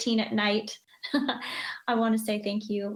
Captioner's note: chuckles